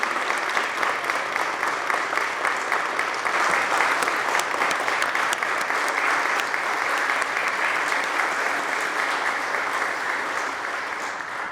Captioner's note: applause